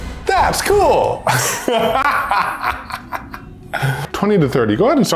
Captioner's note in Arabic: يضحك بصوت عال